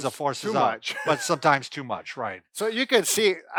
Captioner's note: laughing